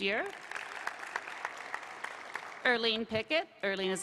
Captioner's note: applause